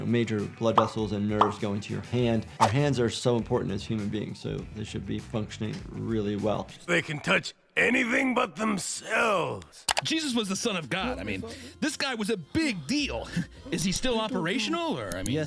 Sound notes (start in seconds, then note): 11.3 muttering